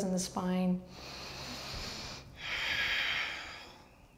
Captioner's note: strong breath